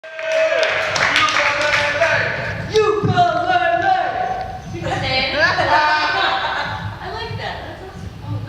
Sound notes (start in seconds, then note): 0.0 applause and cheering; 4.0 laughter; 6.0 laughter